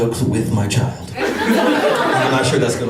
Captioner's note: laughter